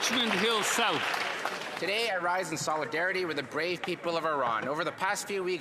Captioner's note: applause